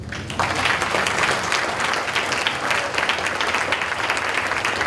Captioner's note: audience applauding